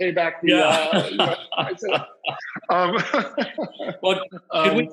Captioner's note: laughs